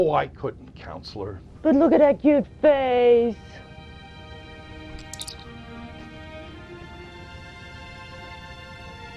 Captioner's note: silly voice